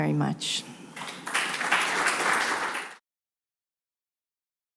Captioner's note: applause